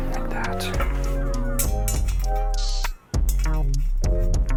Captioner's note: chain clinking; upbeat music